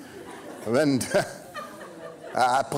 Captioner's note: laughing; speaking foreign language